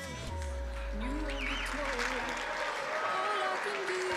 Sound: crowd applauding

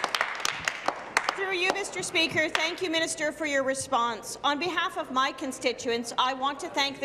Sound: applause

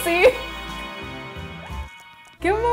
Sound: laughing

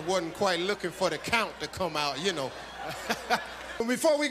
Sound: chuckles

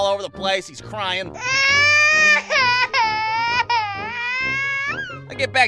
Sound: crying baby sound

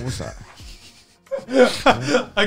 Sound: laughing

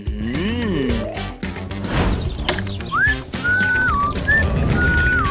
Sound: whistling

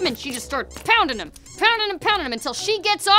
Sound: toys squeak

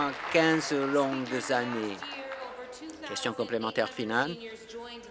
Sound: applause

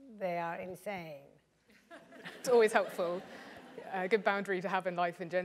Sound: laugh

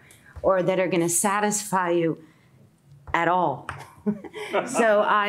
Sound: chuckles

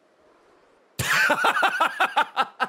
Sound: laughs

